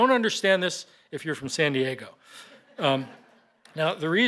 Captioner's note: laughter